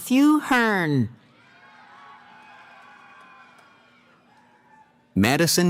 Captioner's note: cheering